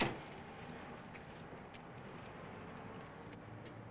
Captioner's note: none